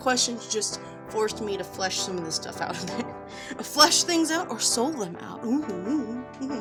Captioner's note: giggles